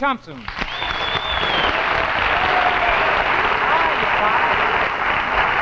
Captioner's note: audience clapping and whistling